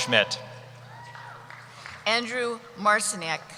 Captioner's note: cheering